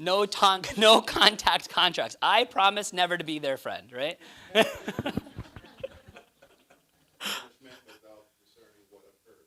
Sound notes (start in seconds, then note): 4.5 laughter